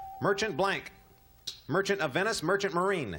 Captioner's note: ding